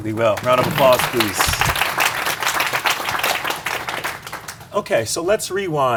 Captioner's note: audience applauds